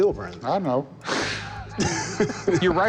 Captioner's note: laughter